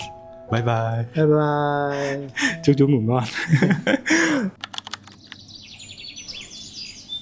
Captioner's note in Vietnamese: tiếng cười